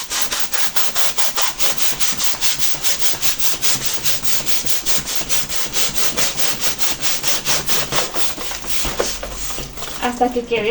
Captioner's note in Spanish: ruido de la infladora